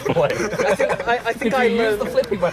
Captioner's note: laughter